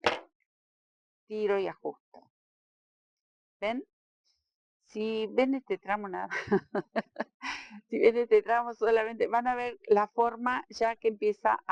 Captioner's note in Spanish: risas